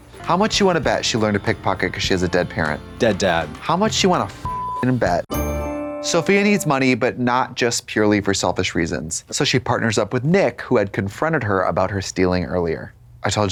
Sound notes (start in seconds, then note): 4.5 beep; 5.3 bright chime